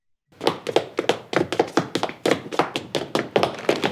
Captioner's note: shoes tapping